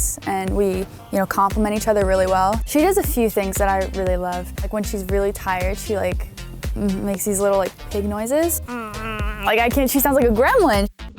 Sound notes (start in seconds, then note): 8.6 grunting like a pig